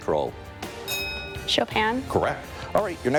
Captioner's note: bell rings